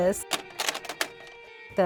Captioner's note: tape clicks